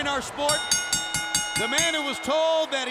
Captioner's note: bell rings